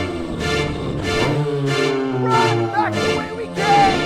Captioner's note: riverbeast roaring